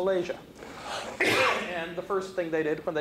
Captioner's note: coughs